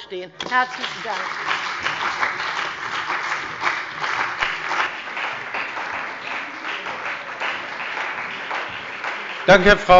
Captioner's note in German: Beifall bei der CDU und dem BÜNDNIS 90/DIE GRÜNEN